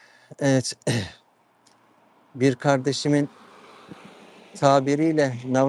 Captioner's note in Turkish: boğazını temizler